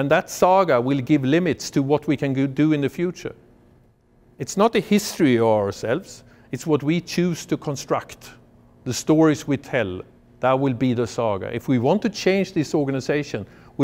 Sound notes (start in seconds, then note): none